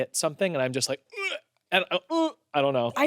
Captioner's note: retches